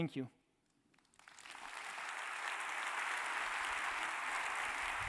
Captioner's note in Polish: oklaski